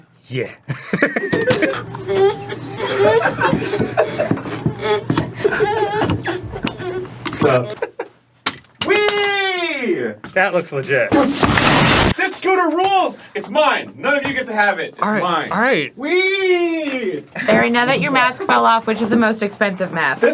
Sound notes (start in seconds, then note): 1.3 scooter squeeking, resisting being scooted; 11.1 crashes into the wall